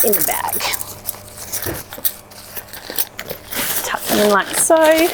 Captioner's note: bag rustling